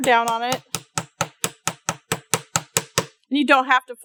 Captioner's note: light hammering